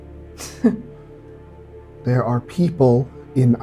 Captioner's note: scoffing